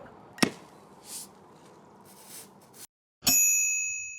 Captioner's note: bottle cap explodes; wine sizzling; bell dings